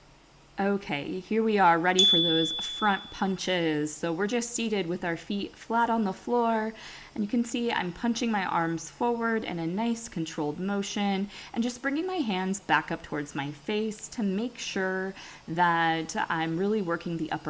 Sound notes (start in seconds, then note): 2.0 chime